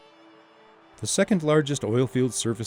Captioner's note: voiceover